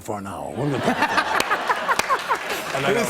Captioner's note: laughter